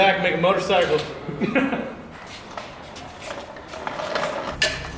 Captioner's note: soft laughs